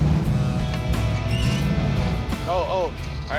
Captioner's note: gear screeching